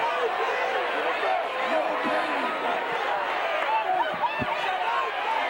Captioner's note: audience indistinct yelling